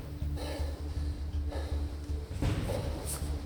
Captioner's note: heavy breathing